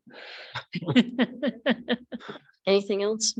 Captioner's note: people chuckle